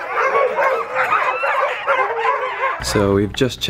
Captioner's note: dogs barking; dogs howling